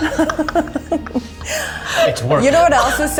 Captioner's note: laughs